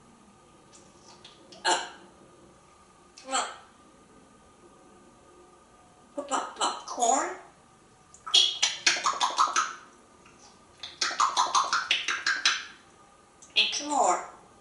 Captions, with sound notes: Up! C´mon! Pop popcorn? [smacking sounds] Eat some more!